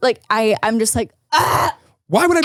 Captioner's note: gagging